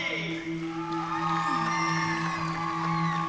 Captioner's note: cheering